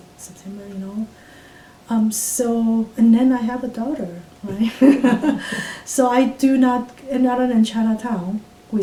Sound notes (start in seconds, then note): 4.6 laughs